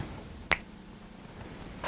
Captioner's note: snap